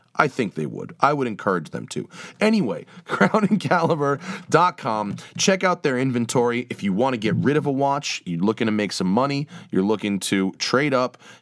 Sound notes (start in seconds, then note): 3.0 laughter